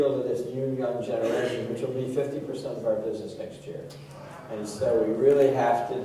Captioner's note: gasp from audience